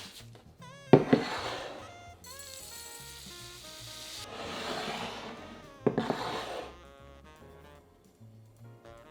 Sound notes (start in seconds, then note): 2.5 bread crumbs dropping